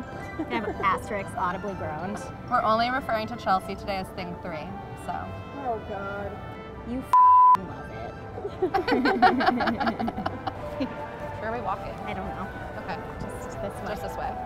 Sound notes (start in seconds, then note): 7.1 beep; 8.3 laughs